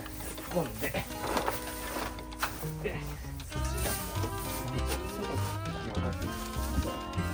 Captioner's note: laughs